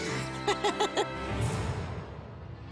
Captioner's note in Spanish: Risas